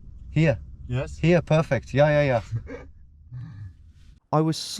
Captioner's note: driver Chuckles